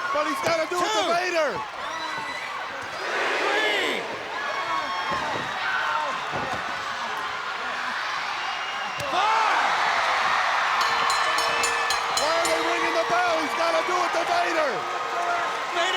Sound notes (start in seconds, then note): 4.2 crowd cheering; 10.8 bell dinging; 10.8 crowd cheering